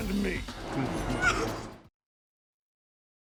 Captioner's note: sobbing